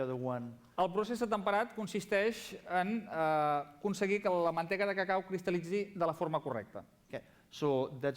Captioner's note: non-english speech